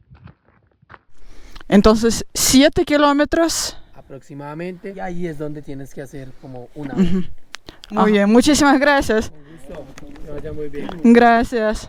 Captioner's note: in Spanish